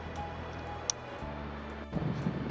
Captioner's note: click; wind sounds on camera microphone